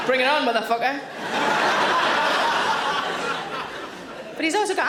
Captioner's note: audience laughing